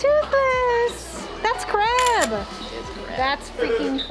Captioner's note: camera click